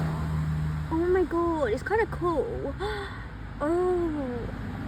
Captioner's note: gasp